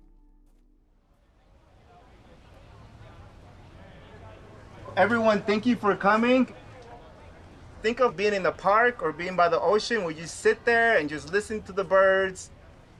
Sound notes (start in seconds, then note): 1.9 crowd chattering